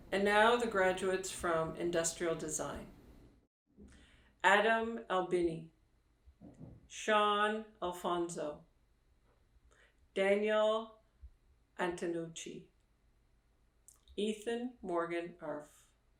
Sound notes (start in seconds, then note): none